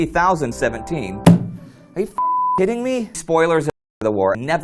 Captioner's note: slam